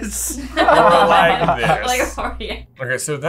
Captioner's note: laughter